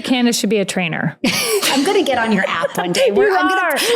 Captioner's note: laughs